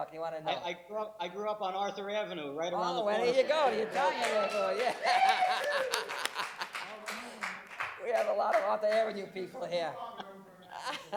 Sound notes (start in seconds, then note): 3.8 applause